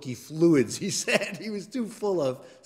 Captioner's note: laugh